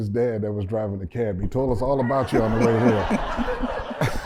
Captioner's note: laughter